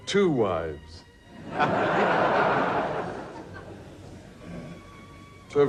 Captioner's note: audience laughs